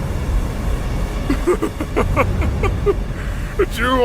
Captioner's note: evil laughter